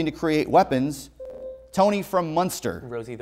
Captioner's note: buzzer